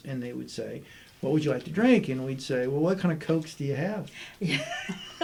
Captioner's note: laughter